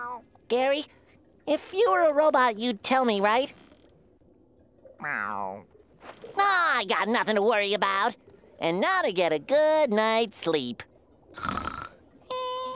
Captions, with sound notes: Gary, if you were a robot, you'd tell me, right? [meows] Oh, I got nothing to worry about. And now to get a good night's sleep. [snoring]